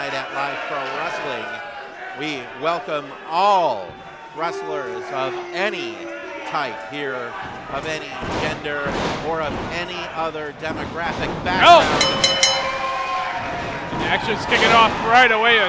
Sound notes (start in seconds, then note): 12.0 bell dinging